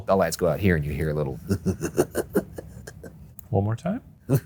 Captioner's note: laughs